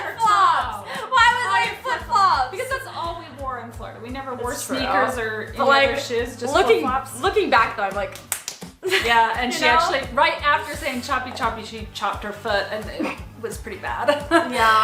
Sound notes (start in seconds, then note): 8.0 smack smack smack